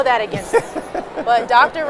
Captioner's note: laughs